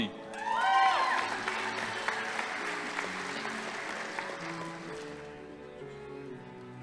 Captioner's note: audience applauding; crowd cheering